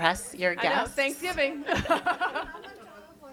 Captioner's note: all chuckle